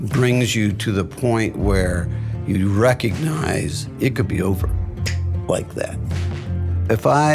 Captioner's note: snaps fingers